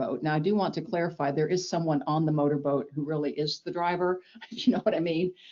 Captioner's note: chuckles